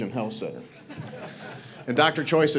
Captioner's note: audience laughs